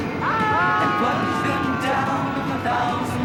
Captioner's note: group yelling